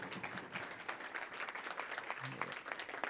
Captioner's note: applause